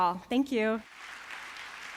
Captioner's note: applause